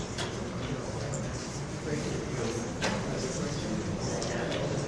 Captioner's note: audience murmurs